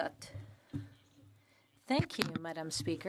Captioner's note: speaking French